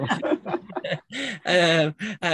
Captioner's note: laughing